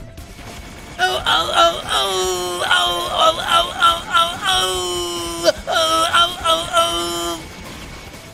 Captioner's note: grape stomping lady impression but louder